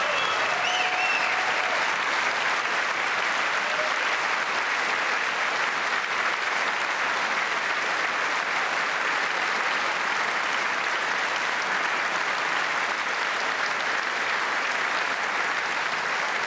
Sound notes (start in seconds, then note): 11.6 cheers and applause